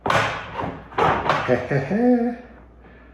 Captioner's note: laughs